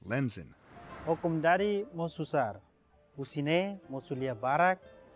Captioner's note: non-english speech